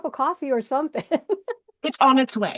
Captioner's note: laughs